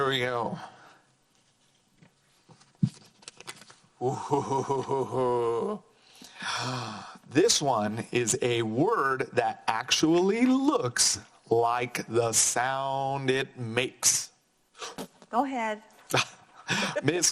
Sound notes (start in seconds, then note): 4.0 chuckles